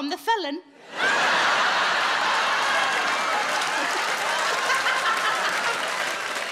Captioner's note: audience laughing and applauding